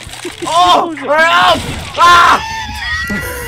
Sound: screams of pain

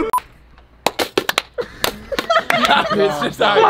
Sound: clapping

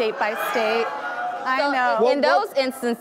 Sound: audience groans

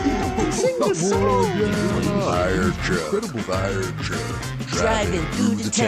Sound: chatter

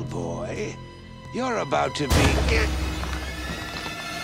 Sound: groaning

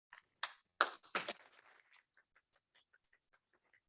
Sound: applause

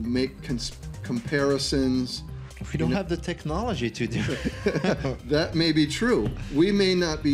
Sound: laughter

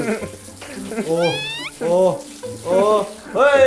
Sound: crying

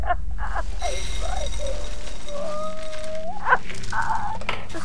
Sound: cereal crinkling

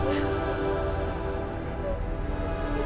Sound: Googly sobbing

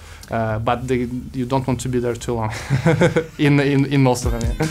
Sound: laughs

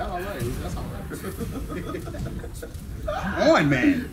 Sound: laugh

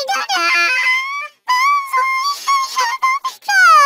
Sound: crying continues

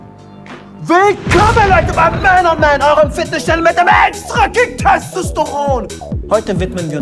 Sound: shouts

